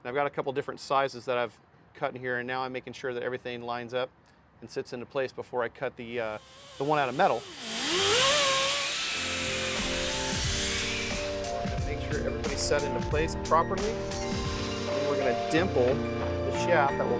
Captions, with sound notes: I've got a couple different sizes that I've cut here and now I'm making sure that everything lines up and sits into place before I cut the one out of metal. (saw motor slicing) (upbeat music) Make sure everybody's set into place properly. And we're gonna dimple the shaft